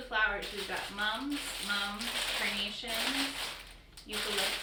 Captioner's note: crinkling